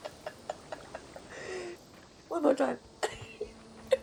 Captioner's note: laughs